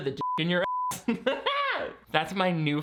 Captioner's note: beeping; laughing